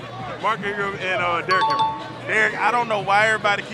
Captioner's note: chime dings